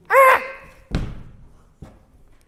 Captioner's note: ahhhhhh